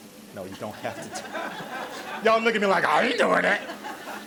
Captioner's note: audience laughs